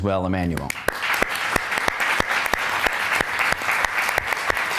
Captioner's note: applause